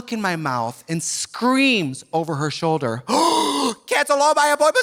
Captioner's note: gasps